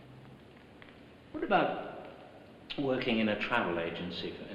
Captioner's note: none